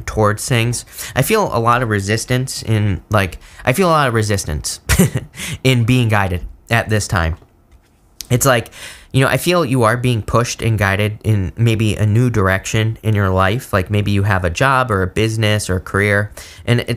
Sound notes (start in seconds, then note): 4.9 laughs